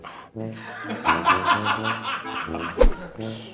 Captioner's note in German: Lachen von hinter der Kamera